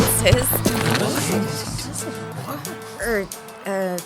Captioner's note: crowd reacts, confused